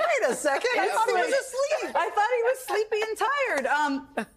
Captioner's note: laughter